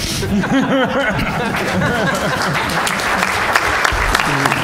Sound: laughter; applause

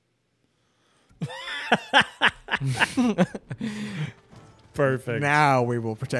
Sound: both laughing

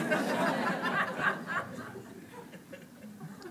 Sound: laughing

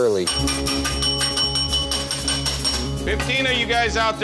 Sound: rings bell

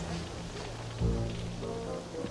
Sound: sniffing

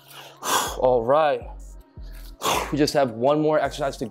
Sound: exhales

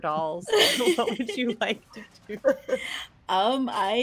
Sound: laughs

